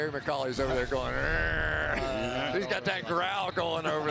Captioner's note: growling